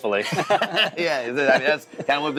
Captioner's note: both laugh